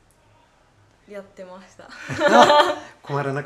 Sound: laughing

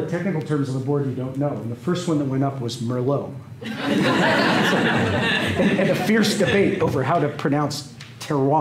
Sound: laughter

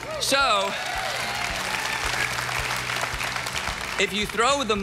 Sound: audience cheering

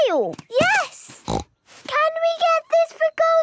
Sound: snorts

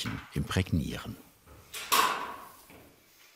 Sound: clacking

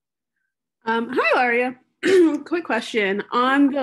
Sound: gentle Voice

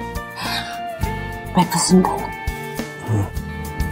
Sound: Ananya gasps

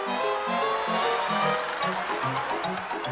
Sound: honk!

